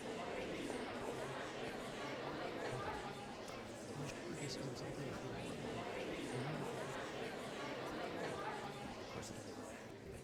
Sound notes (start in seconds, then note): 0.8 crowd chatting